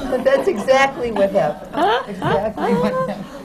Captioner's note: laughter